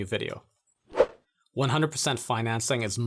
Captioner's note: air whooshing